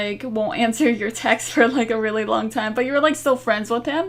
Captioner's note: laughing